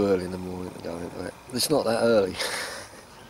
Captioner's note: laughs